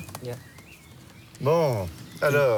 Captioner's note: speaking in foreign language